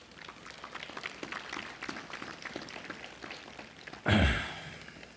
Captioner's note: applause